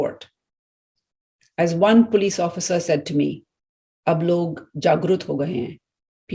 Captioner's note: speaking in Hindi